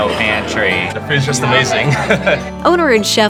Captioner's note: laughs